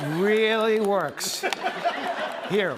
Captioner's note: laughter